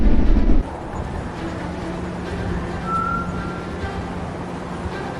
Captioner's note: wind rushing